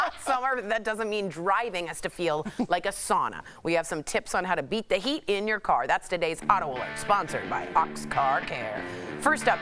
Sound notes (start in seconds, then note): 2.4 laughter